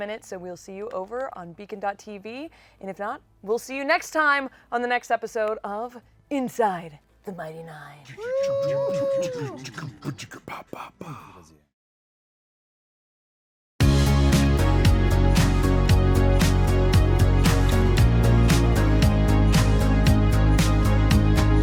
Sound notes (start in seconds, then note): 8.0 beatboxes; 8.2 cheers